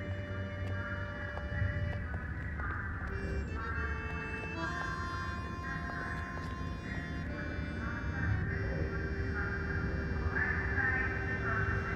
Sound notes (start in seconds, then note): 2.2 footsteps tapping; 5.1 gentle orchestral music